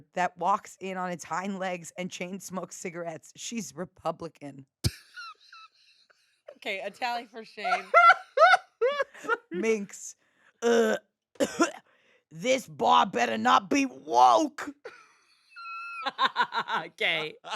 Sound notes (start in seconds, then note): 5.0 laughs; 7.4 laughs; 11.4 coughs; 15.6 laugh